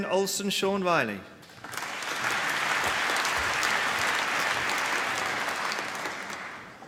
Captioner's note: applause